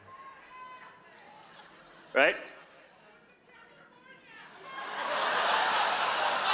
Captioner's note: silence